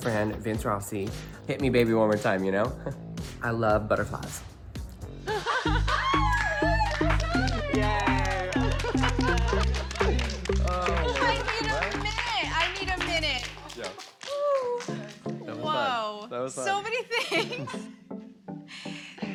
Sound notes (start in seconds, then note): 5.3 laughing